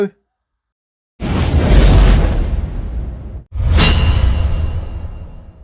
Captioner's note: effect whooshing